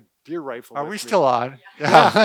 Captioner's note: laughing